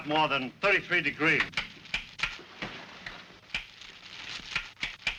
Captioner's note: switches clicking